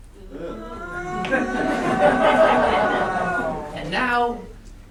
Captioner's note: wailing